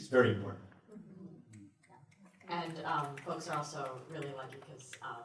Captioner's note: snaps